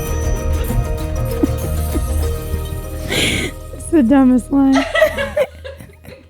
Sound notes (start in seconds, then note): 4.7 both laughing